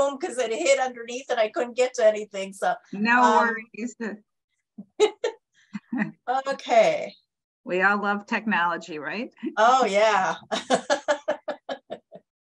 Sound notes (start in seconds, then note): 5.8 laughing